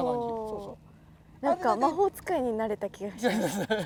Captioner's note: laughs